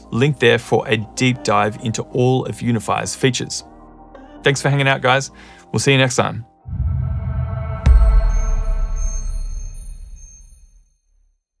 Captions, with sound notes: linked there for a deep dive into all of UNIFY's features. Thanks for hanging out, guys. We'll see you next time. (logo swooshing) (electronic tinkling)